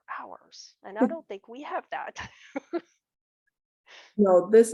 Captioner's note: laughter